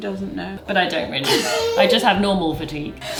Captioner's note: wheezes